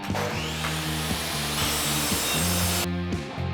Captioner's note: saw whirring